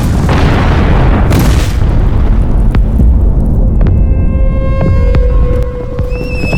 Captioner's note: flames roar and crackle; explosions thump; dark orchestral music; horse neighs